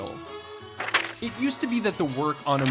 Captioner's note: cards whooshing